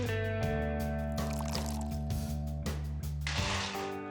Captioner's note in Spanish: sonido al servir bebida